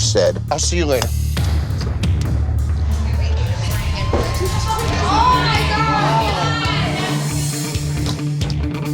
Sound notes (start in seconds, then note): 4.1 thud; 6.7 tense music